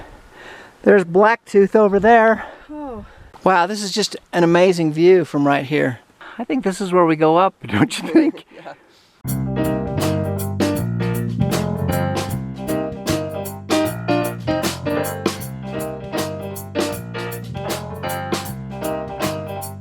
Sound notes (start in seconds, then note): 7.8 laughter